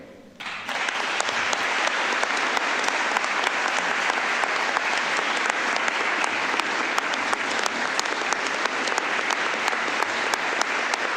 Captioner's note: applause